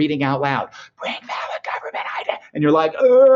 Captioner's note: whispering